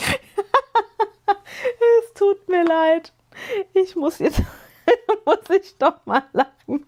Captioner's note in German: gelächter